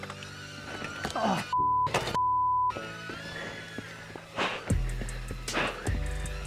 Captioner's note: beep